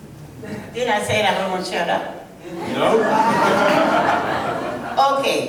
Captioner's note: people laughing